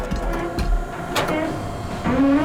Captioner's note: door open close